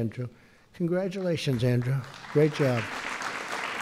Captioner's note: applause